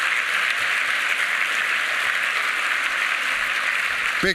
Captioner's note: applause